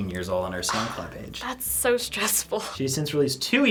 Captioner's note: sighs